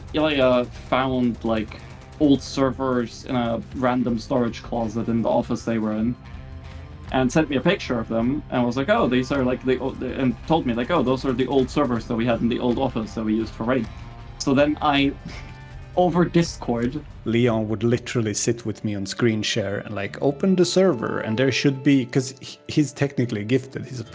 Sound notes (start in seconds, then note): 15.2 chuckle